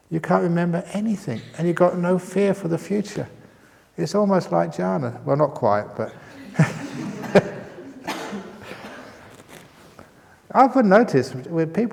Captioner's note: chuckles